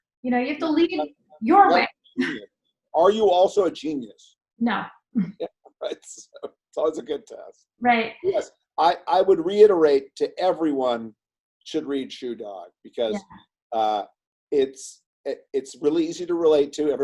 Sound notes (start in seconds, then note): 8.2 laughs